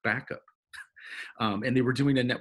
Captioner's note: chuckles